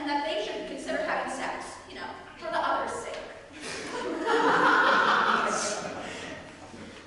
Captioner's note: audience laughter